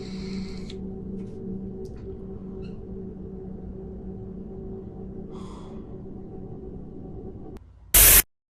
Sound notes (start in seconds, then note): 5.3 sigh